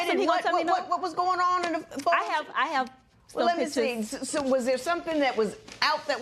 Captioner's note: none